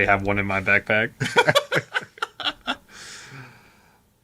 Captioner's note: laughing